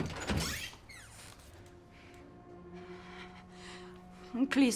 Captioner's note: door squeaks